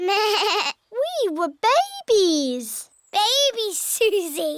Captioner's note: bleats